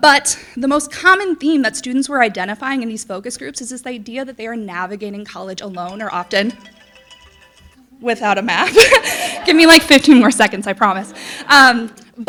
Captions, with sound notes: but the most common theme that students were identifying in these focus groups is this idea that they are navigating college alone are often... (alarm ringing) Without a map. (audience laughing) Give me like 15 more seconds, I promise.